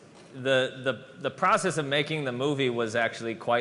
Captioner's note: none